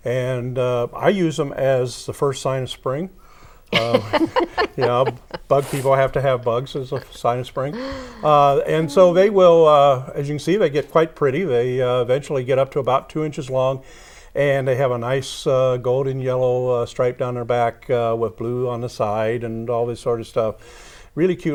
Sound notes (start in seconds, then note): 3.7 laughing